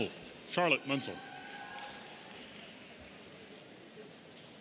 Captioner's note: audience cheering